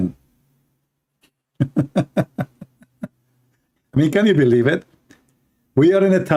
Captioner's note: Ketawa